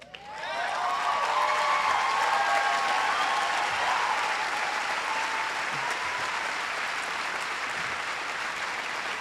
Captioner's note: applause